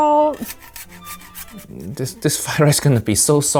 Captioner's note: salt and metal rustling